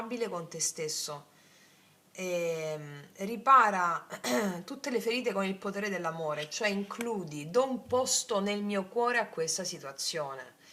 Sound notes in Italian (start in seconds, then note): 2.6 schiarire la voce